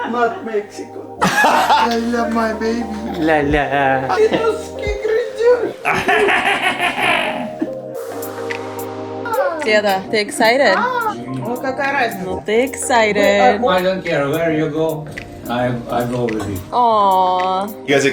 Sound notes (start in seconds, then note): 1.2 laughing; 5.8 laughing; 8.6 lighthearted music